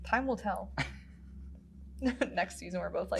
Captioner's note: giggles